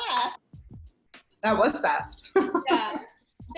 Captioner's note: laugh